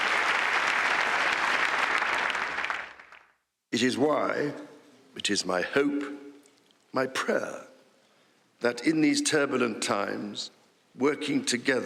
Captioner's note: applause